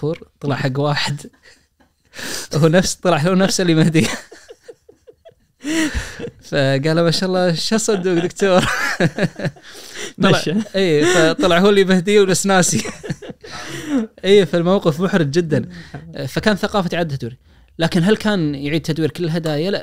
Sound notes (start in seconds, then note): 4.7 laughs